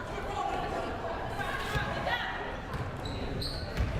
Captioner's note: crowd murmuring